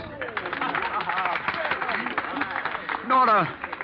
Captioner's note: applause